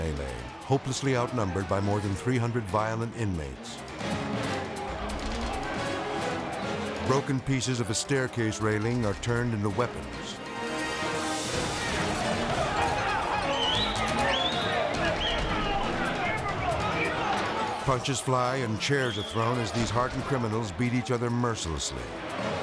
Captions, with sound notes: hopelessly outnumbered by more than 300 violent inmates. (intense music) Broken pieces of a staircase railing are turned into weapons. (prisoners shouting) Punches fly and chairs are thrown as these hardened criminals beat each other mercilessly.